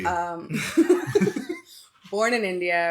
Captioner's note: laughing